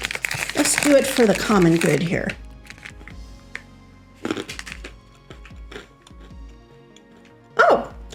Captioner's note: crunch-crunch-crunch